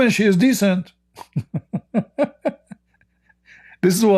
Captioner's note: Ketawa